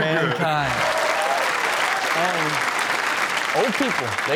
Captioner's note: audience applaud